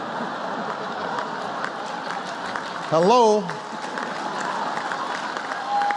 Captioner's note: laughter